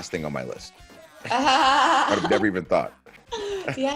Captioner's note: laugh